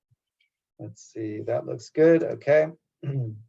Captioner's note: cough